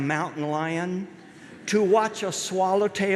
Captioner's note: light laughter from audience